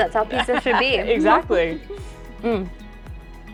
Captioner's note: laughs